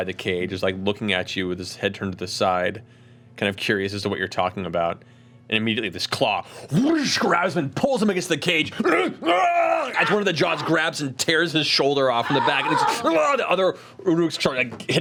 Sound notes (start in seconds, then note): 8.8 screaming; 12.2 grunting